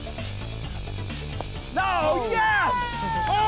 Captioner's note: bat hits ball